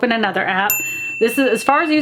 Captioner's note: bell dings